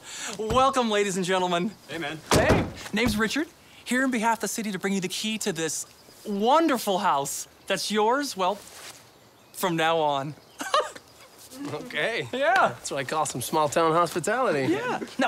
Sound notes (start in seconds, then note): 10.6 laughs